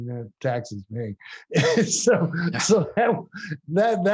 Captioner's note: laughs